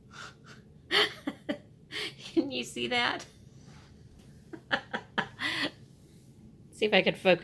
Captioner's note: laughter; more laughter